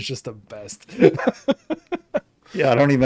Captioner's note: laughing